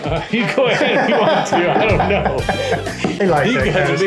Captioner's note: laughs